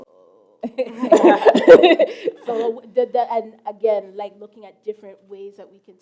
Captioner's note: chuckle